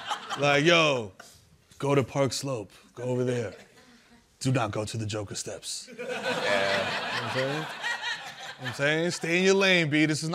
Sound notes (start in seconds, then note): 0.0 laughter; 5.9 laughter